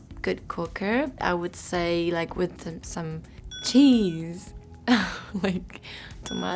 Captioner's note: chuckles